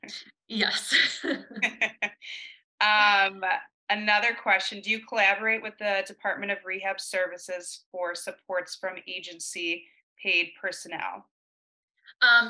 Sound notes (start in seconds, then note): 1.2 presenters laughing